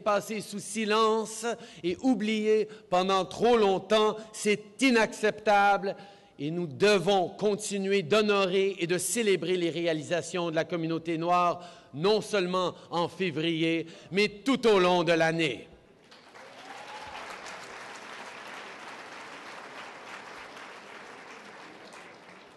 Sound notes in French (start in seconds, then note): 19.1 Applaudissements